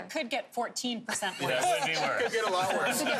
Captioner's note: laughter